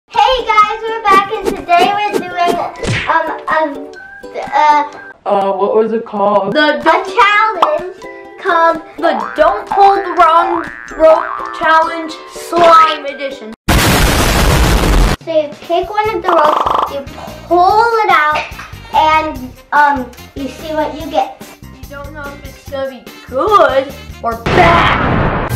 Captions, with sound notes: hey guys we're back and today we're doing uh uh uh uh what was it called? the don't a challenge called the don't pull the wrong rope challenge slime edition [large explosion] so you pick one of the ropes you pull it out and um you see what you get you don't know if it's going to be good or bad [explosion]